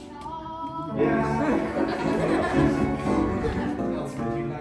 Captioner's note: children laugh